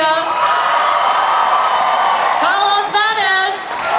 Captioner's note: audience cheers